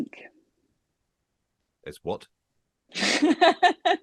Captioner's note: laughter